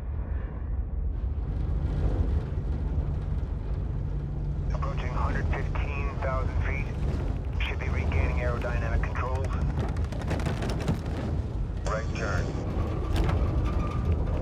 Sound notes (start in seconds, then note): 9.2 aircraft joystick shaking